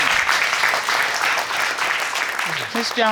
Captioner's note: audience applauding